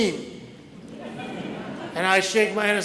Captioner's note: audience laughs